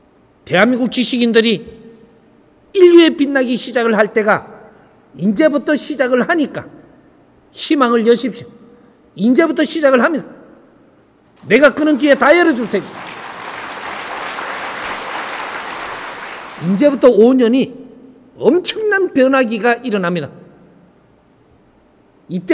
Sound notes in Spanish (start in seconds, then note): 12.9 Aplausos